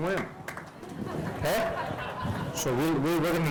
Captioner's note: audience laughing